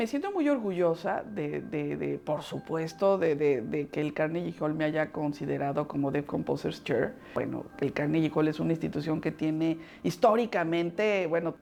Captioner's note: speaking Spanish